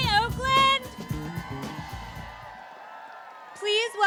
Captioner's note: applause